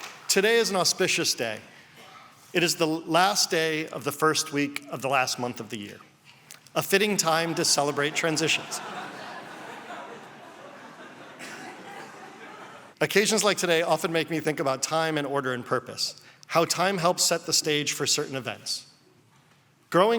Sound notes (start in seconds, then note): 7.4 laughter